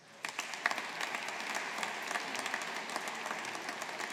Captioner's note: audience applauding